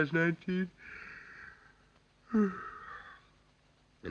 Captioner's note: yawning